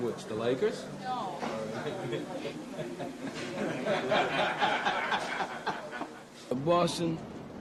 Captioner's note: man laughs